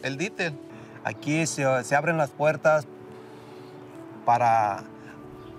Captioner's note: speaking in Spanish